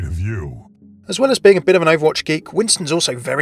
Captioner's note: voiceover